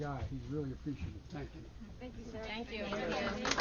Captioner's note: applause